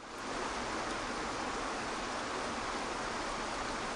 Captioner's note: water flows